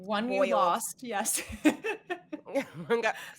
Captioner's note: laughing